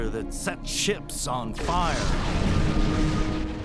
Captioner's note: explosion noise